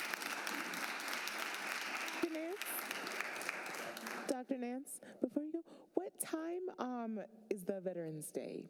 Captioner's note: applause